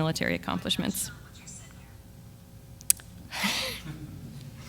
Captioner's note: voiceover; laughs